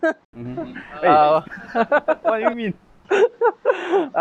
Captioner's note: laughs